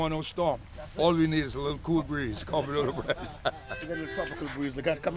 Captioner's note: laughs